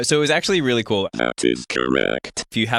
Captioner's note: robot voice